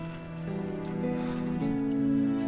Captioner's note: sighs